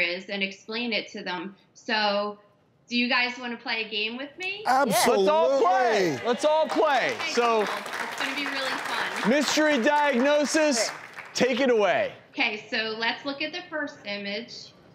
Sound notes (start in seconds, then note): 6.8 audience clapping